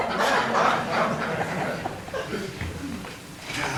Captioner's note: laughter